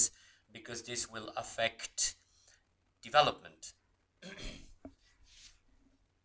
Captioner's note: clears throat